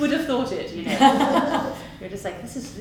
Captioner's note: laughs